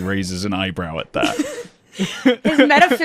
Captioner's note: laughter